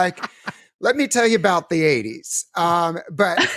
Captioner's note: laughs